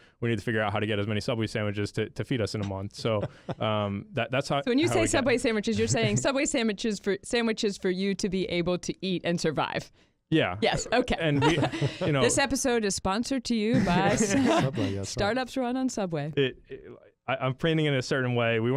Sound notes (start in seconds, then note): 2.6 chuckles; 13.7 all chuckle